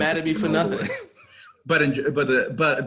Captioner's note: laughs